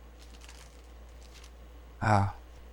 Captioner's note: sigh